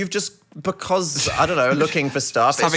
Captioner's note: laughing